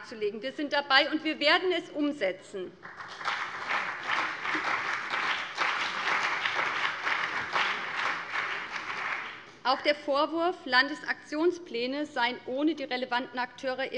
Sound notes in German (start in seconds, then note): 2.8 Beifall BÜNDNIS 90/DIE GRÜNEN und CDU